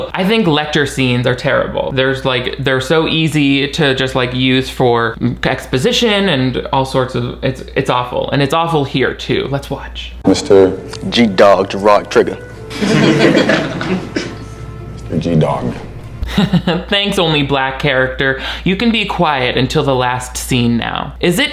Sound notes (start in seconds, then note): 12.7 students laughing; 16.2 chuckles